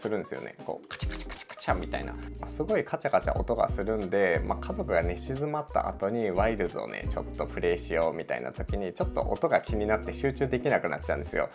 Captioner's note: ticking